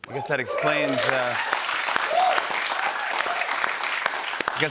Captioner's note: cheers and applause